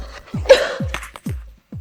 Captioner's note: cough